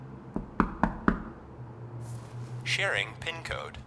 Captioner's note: knock rapping